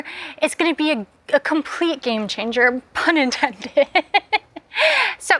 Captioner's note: laughs